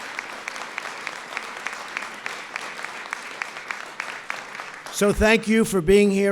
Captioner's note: applause